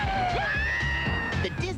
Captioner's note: Mickey screams